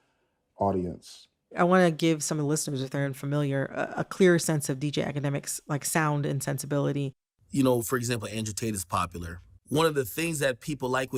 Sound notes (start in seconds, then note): 7.4 soundbite of archived recording